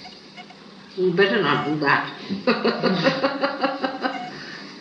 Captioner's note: she laughs